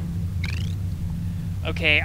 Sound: chirp

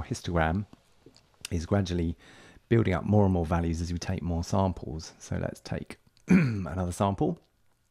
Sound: cough

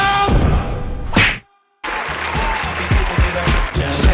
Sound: crowd Cheers again

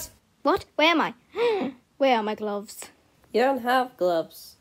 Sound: gasps

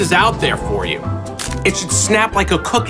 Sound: crunches

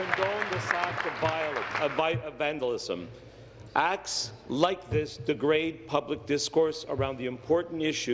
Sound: applause

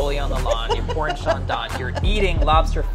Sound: laughs

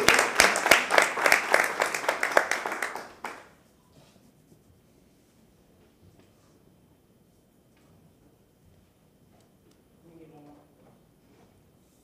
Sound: applause

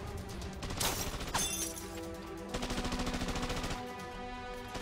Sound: gunfire

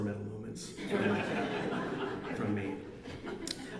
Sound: audience laughs

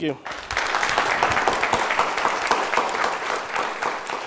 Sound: applause

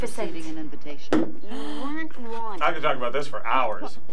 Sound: React gasps

